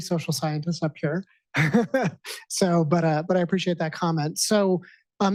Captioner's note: chuckles